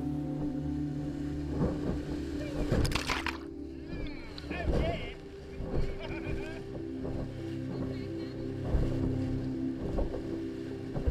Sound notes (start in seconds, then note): 2.0 splashing; 3.9 chatter; 6.8 calm music